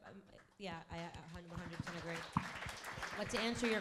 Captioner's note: crowd applauding